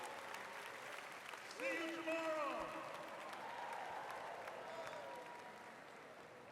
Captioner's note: applause